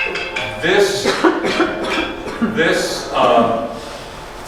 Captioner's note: phone ringing